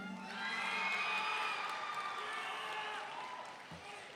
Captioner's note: audience cheering